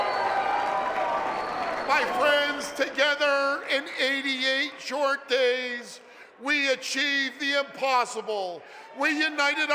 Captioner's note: applause and cheering